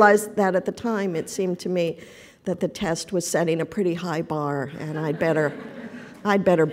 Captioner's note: laughter